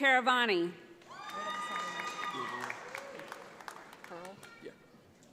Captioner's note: audience applauds